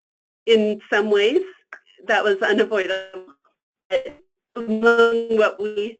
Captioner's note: static